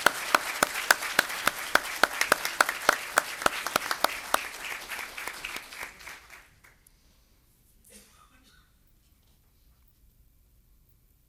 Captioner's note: applause